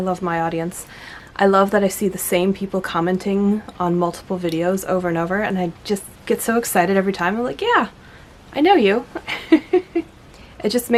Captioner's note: laughs